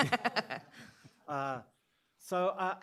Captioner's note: laughter